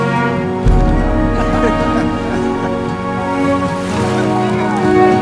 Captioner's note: laughter